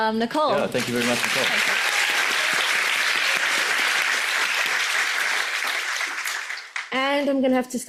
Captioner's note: audience applauds